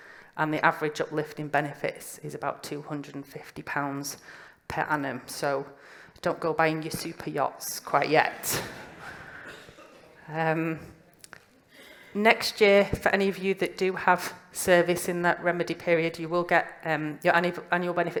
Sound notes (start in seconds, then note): 8.4 laughter